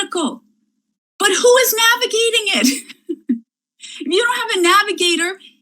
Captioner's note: laughs